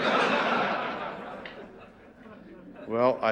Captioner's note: audience laughing